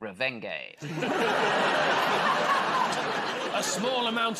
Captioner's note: laughter